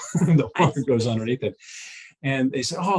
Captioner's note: chuckles